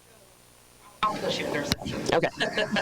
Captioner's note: talking without mic; laughing